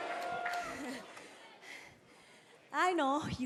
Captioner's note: cheers and boos